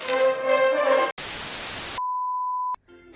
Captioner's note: static